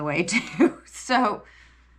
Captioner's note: laughs